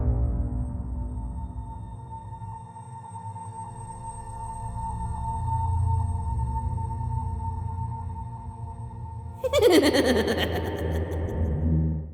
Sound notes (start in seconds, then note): 9.4 creepy giggling